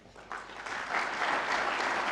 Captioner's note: audience applauds